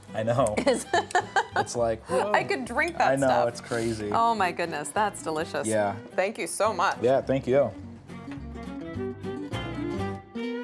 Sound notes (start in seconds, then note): 0.6 laughs